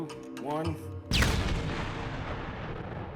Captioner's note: loud explosion